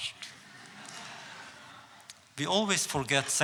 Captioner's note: audience laughs